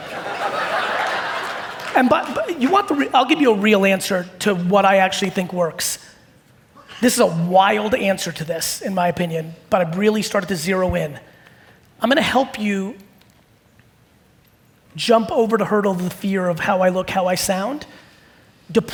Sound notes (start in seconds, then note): 0.0 audience laughing